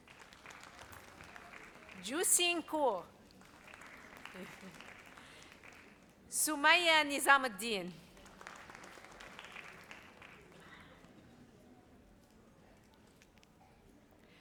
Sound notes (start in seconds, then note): 0.0 audience applauds; 8.5 audience applauds